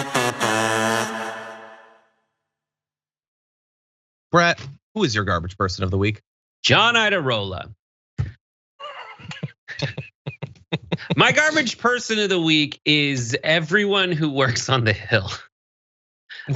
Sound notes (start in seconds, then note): 8.8 laugh